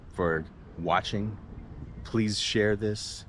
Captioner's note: street noise